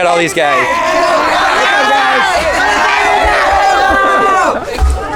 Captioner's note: crowd cheering